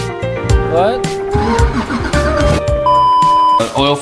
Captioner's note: engine cranking